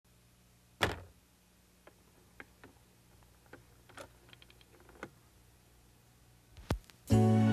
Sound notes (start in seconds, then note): 0.8 record drops; 6.6 turntable pops; 7.0 sad country music